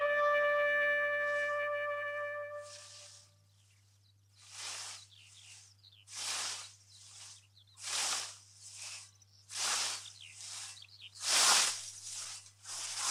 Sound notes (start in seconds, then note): 4.2 whoosh